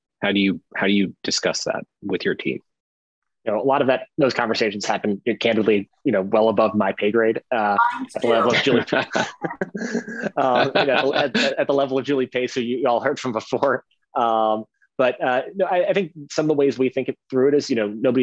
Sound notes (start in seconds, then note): 8.1 laughing softly